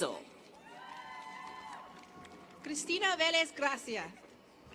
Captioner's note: applause